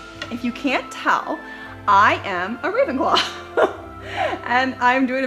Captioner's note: chuckles